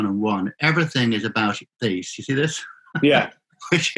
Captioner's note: laughing